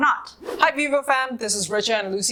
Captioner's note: air whooshes